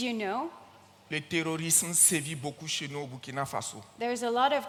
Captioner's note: continues in French